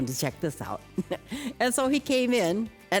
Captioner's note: laughs